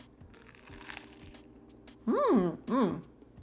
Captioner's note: borsook crunching